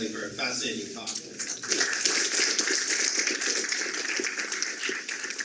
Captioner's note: audience applaude